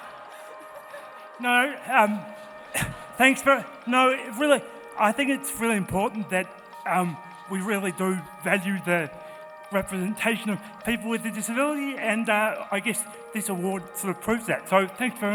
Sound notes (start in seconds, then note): 2.4 laughs